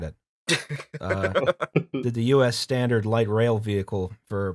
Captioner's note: laughter